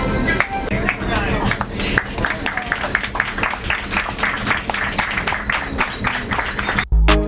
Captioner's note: applause